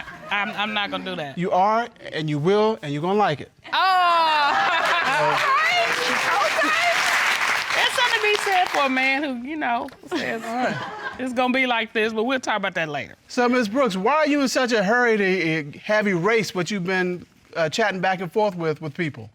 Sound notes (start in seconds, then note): 4.2 laughs